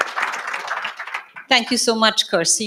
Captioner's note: audience applauds